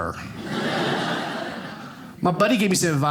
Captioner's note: audience laughing